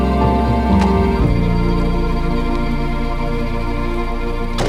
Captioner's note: door latching